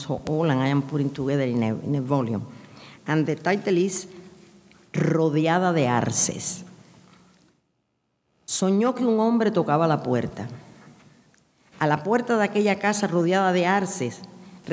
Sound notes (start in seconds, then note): 3.6 speaking in a foreign language